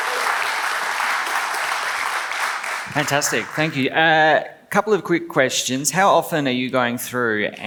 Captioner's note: claps